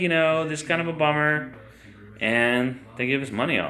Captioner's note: none